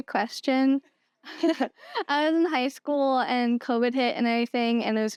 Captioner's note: laughter